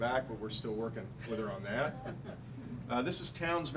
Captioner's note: laughing